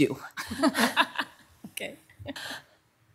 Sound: softly chuckles

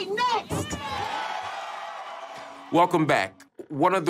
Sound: crowd cheering

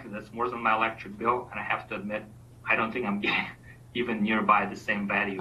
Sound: coughs

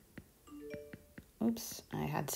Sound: notification bell rings

